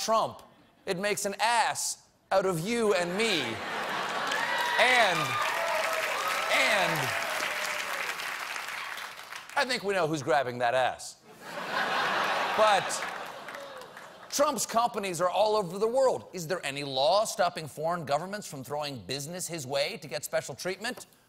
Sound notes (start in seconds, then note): 3.8 applause; 6.9 laughter